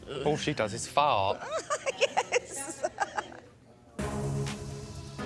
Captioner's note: laughs